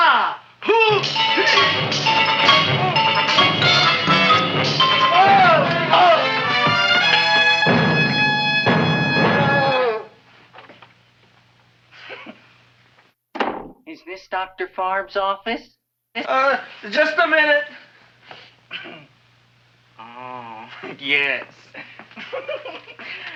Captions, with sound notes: (dentist grunting) (dramatic music) (dentist groans) (music intensifies) - (chuckles) Is this Dr. Farb's office? - Just a minute! - Aw, yes (chuckles).